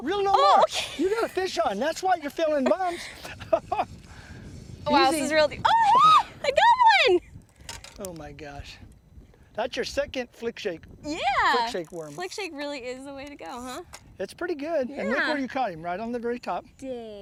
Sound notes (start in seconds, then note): 2.6 laughter